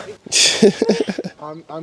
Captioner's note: laughing